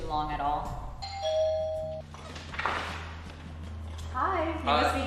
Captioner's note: doorbell rings